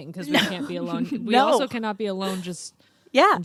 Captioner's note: laughs